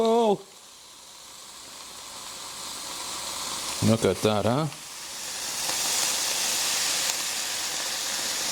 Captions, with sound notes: (sizzling) Look at that, huh? (sizzling)